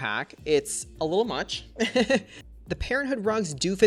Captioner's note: laughs